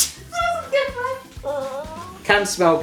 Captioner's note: both laughing